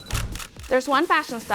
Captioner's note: cameras clicking